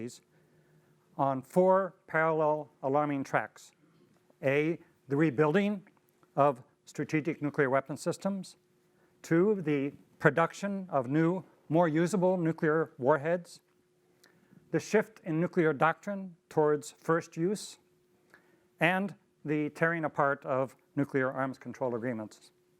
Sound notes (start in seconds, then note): none